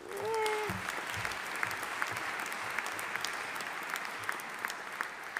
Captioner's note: audience applauding